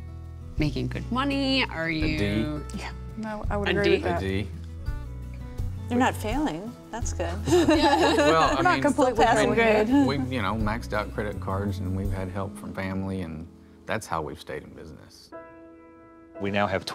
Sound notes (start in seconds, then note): 7.4 laughter